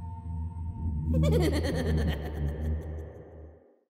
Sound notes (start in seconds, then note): 1.1 creepy laughing